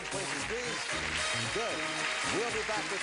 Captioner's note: applause